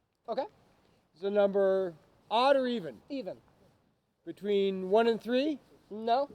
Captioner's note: none